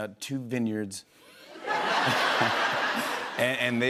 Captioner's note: laughter